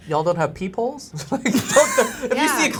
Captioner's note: laughing